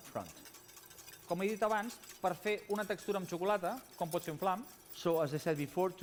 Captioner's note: non-english speech